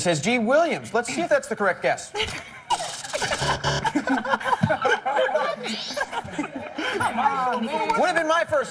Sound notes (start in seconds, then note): 4.6 laughter